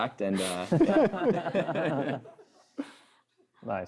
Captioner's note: laughter